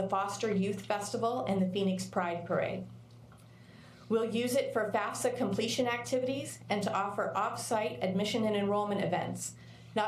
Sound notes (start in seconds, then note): none